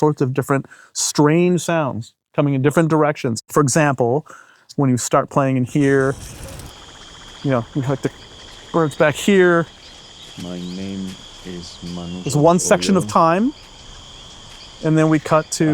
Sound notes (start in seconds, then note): 6.1 insects chittering; 6.1 water trickles; 9.6 birds chirping and squealing